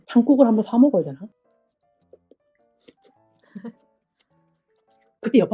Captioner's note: sister laughing, remembering the failed fish pancakes last year